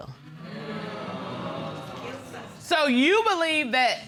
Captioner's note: audience clamoring